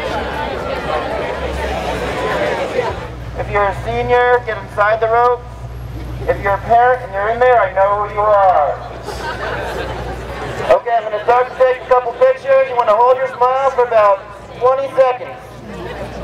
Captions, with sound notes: - [Voiceover] If you're a senior, get inside the rope. If you're a parent and you're in there, I know who you are. (laughing) Okay, I'm about to take a couple of pictures. You wanna hold your smiles for about 20 seconds.